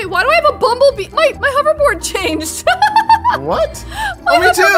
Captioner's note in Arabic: يضحك